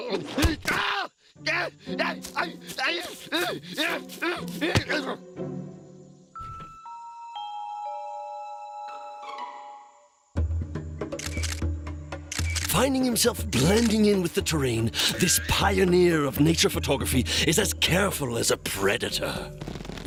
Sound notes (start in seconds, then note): 1.3 groaning